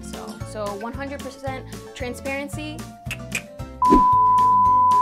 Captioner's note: tongue click